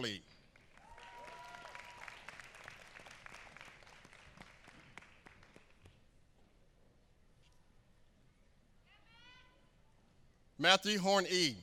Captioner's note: applause